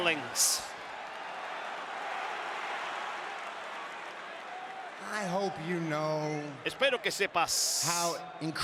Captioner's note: applause